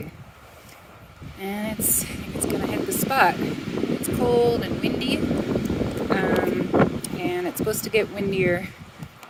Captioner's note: wind blows